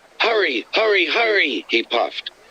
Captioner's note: through a voice box